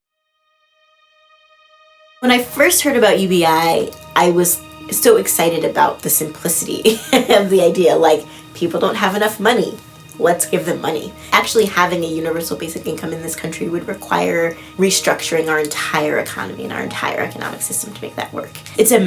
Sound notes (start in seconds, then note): 0.7 somber music; 6.8 laughs